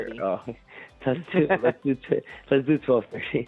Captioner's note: both laugh